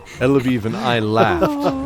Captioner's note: Laughs with Keldor